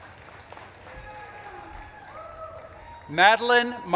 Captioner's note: audience claps and cheers